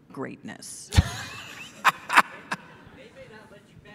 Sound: laughing

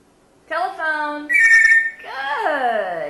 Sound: ringing sound

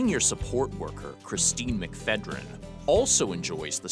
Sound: voiceover

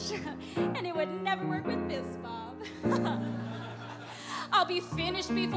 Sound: laughs

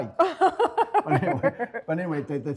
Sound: laughter

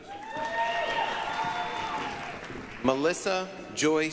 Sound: applause, cheering

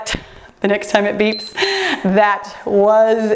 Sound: timer beeps

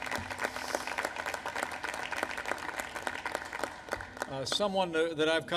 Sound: applause

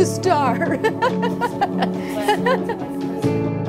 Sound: nurse laughs; soft music

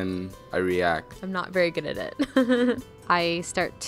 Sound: laughs

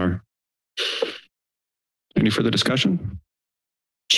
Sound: inhales

